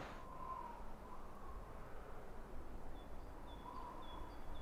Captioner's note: wind whistling